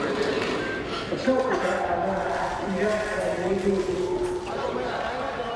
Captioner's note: speaking in Burmese